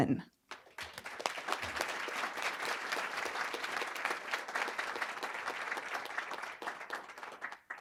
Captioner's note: applause